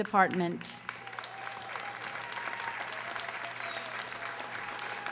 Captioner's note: audience applauding